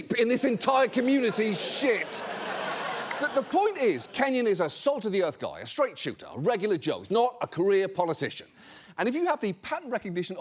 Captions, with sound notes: in this entire community's shit." (AUDIENCE LAUGHS) The point is, Kenyon is a salt-of-the-earth guy, a straight shooter, a regular joe, not a career politician. And if you have the pattern recognition